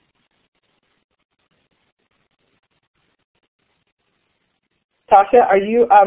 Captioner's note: silence